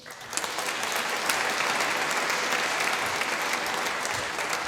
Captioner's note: applause